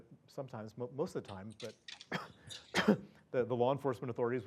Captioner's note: cough